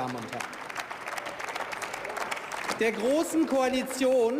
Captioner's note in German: Beifall